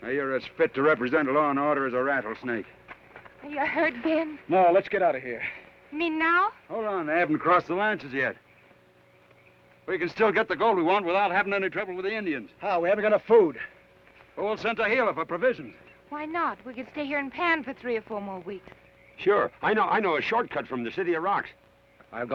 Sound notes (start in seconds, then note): none